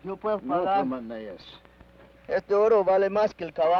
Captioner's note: Ben speaks foreign language